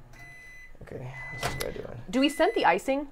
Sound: microwave beeping

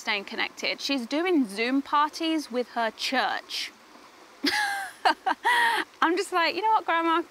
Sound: laughs

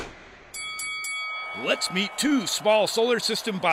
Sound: bell rings

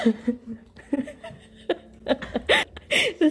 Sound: laughing

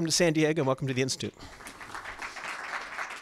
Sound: applause

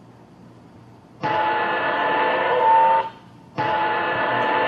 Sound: vehicle screeching

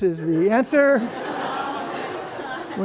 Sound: laughter

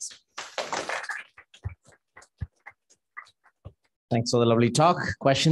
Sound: applause

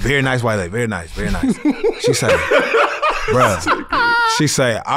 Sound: laugh

